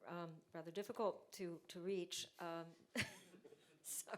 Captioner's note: chuckles; audience chuckles